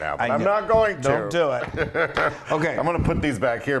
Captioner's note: laugh